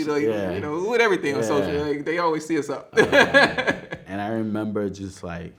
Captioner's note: laughs